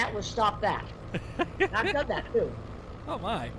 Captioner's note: man laughs